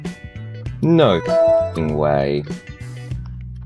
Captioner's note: windows 7 log off sound